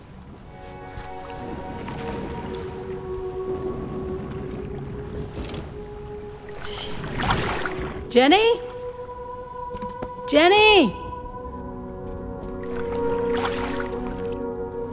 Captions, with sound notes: [dramatic music] [water splashing] - Jenny? Jenny!